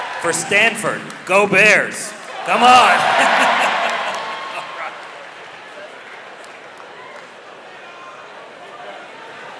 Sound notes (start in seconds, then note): 2.5 laughs; 6.0 audience cheering